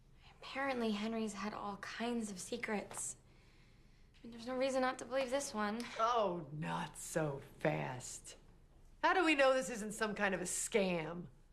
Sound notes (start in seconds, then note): none